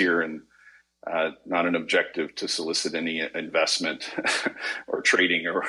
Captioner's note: chuckles